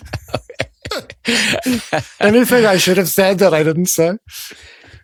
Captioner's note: laughing